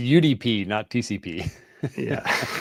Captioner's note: laughter